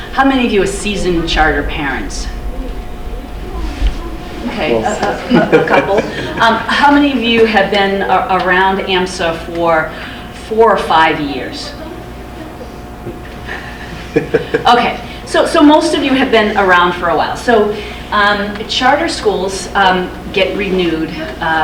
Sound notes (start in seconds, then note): 5.2 laughs; 13.8 laughs